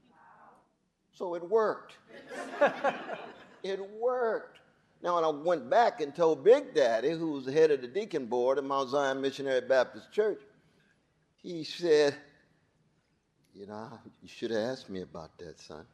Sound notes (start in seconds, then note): 2.1 audience laughing